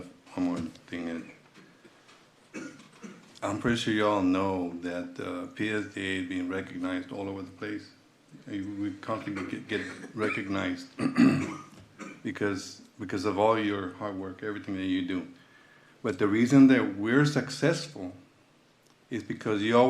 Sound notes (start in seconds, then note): 2.5 clears throat; 10.9 clears throat and cough